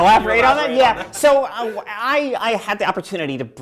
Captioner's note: laughing